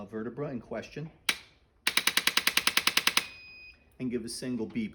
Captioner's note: clicking sound....beep